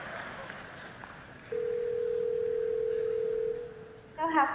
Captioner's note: ringing